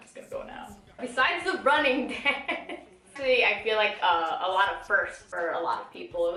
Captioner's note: laughs